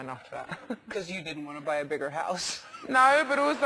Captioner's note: laugh